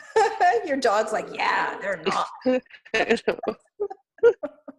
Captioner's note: laughs